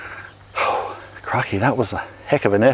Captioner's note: breathes out heavily